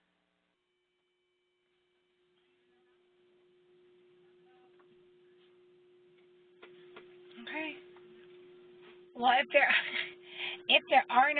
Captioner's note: laugh